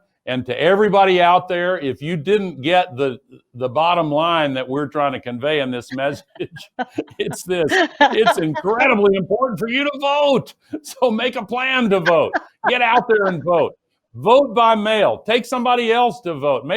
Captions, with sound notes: and to everybody out there, if you didn't get the bottom line that we're trying to convey in this message (chuckles), - (Gina laughs) - it's this, it's incredibly important for you to vote! So make a plan to vote, get out there and vote. Vote by mail, take somebody else to vote.